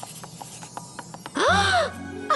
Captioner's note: gasp